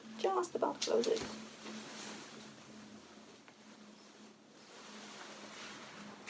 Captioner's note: fabric rustling